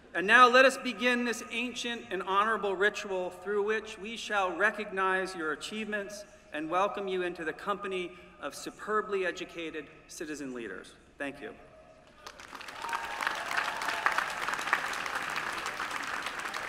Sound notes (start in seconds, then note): 12.1 applause